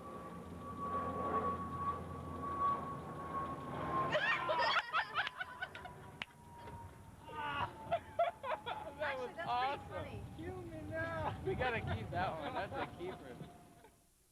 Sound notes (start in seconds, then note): 4.1 laughter